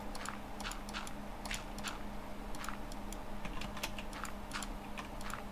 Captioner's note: typing